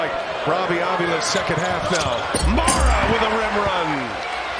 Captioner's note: cheers and applause